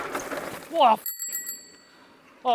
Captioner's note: beep